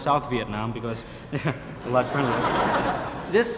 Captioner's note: audience laughing